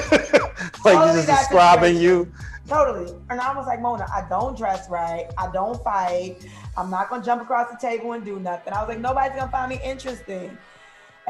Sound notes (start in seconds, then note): 0.0 laughter